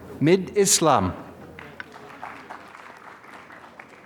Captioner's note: applause